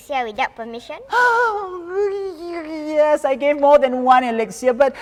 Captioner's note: gasps